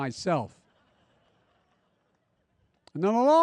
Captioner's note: laughter